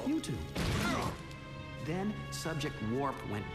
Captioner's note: both grunt